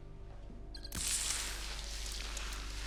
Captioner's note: static sounds